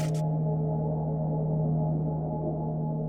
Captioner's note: crackling